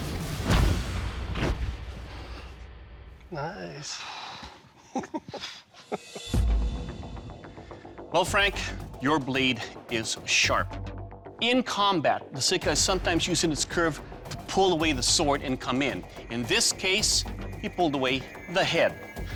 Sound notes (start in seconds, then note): 3.9 sighs; 4.7 chuckles